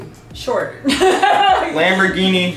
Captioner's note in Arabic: يضحك